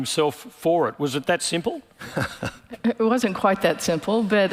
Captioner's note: laughing